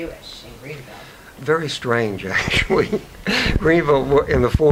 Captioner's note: chuckles